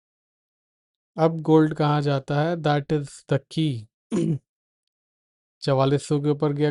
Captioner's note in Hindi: गला साफ़ करने की आवाज़